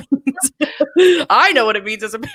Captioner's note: laughs